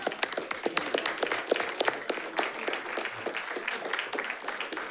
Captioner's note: audience applauds